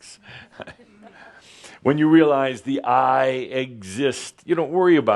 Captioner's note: Adamus chuckles